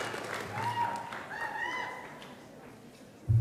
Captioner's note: sound of cheers from the audience